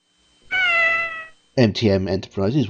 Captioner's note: cat meow